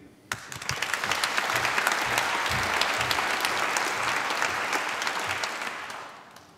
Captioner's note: applause